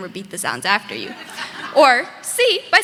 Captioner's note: audience laughing